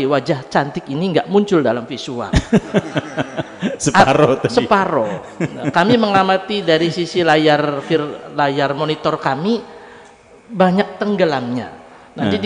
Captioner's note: laughs